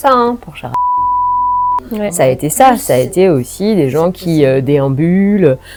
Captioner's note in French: bip